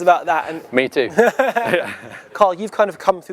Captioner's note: laugh lightly